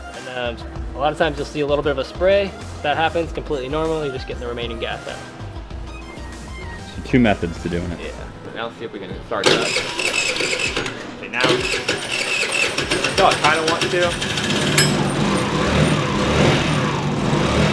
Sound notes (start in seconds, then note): 9.8 engine crank; 14.9 engine revs